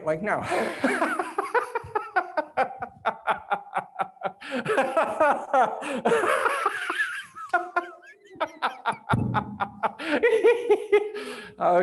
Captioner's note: laughs